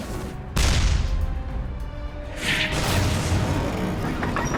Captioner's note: shells firing